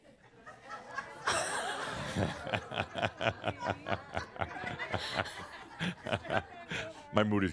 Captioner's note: more laughter and chuckles